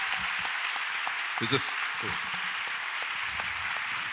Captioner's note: audience applauds